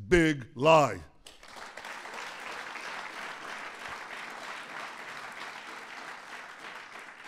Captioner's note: applause